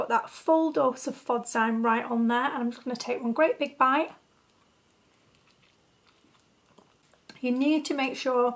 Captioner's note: chews furiously